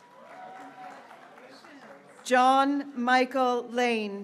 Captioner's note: graduates cheering